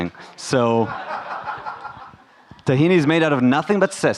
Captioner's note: audience laughing